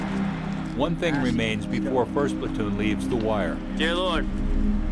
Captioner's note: voiceover